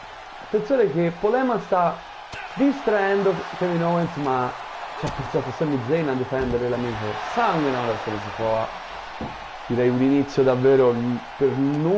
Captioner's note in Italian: Applauso